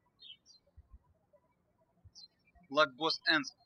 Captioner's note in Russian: птички щебечут